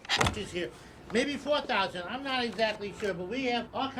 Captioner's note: window squeaks